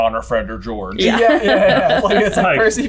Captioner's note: laughs